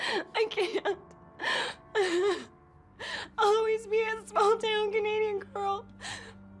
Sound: sobs

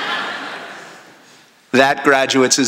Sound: laughter

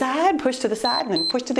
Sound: timer beeps

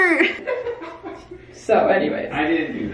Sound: giggles

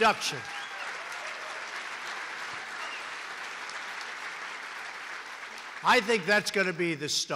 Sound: applause

